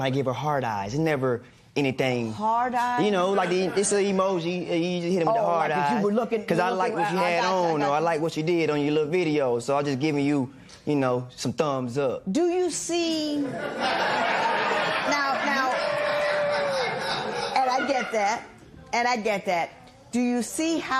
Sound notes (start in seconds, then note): 13.4 laughter; 15.7 scattered cheers and applause